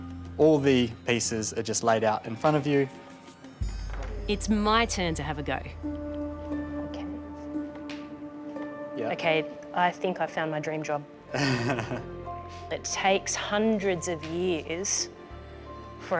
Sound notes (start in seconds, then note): 11.3 laughs